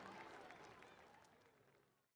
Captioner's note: clapping and cheering